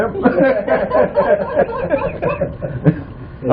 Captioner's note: laughter